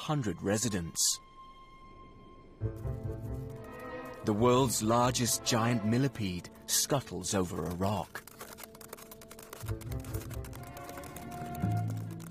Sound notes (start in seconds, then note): 5.1 clicking; 12.1 mystical music